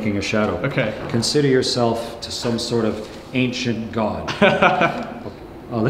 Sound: laughing

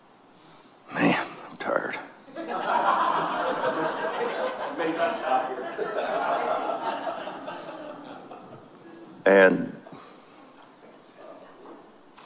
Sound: audience laughs

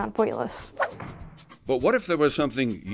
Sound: kaboom!

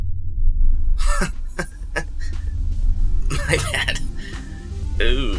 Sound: chuckles

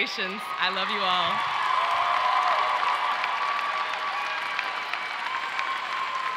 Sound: audience cheers and applauds

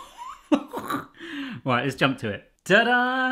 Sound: laughing

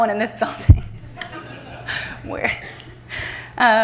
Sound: everyone laughing

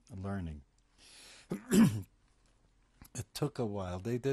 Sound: pauses for 3 seconds

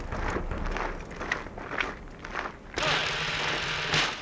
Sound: gravel crunching

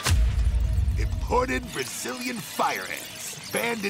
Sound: ants chittering

